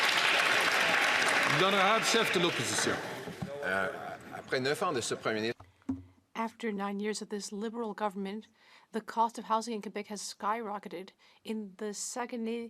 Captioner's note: some Applause